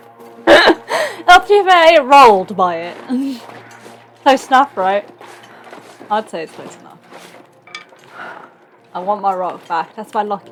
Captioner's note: laughs